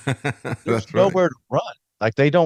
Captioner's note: laughing